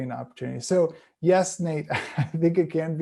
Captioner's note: chuckles